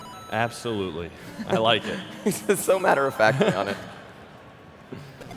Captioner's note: laughter